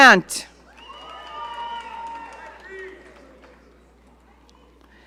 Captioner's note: audience cheering